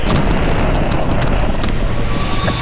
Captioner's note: static; monster screams